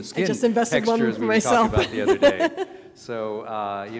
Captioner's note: laughs